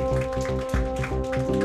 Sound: audience applauding

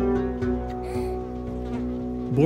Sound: children crying; flies buzzing

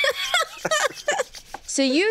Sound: laughs

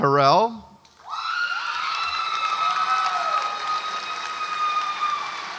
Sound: audience applauds and cheers

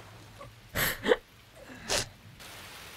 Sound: sniffling and crying

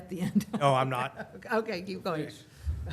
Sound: laughter

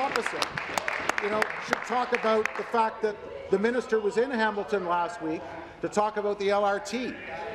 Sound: applause

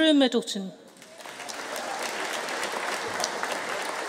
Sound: audience cheering

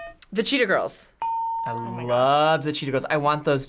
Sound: guitar riff; bell rings

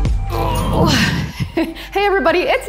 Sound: grunts

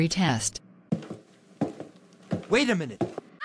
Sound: footsteps

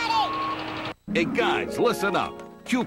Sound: tough-guy voice

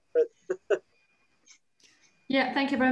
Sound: chuckles

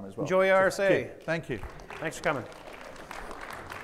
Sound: audience applauding

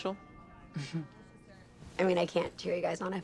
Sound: chuckles

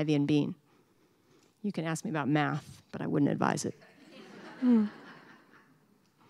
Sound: laughter

